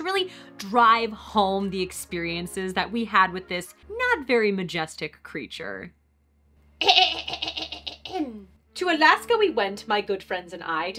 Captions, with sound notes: drive home the experiences that we had with this not very majestic creature. *Clears Throat* To Alaska we went my good friends and I to